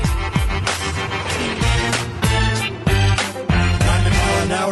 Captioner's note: vehicle honking; vehicle engine roaring